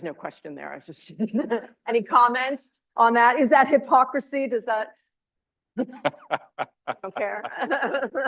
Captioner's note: laughs